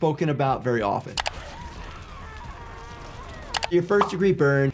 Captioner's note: villager screams